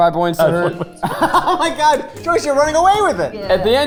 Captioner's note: laughing